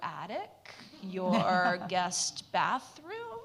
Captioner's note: audience laughs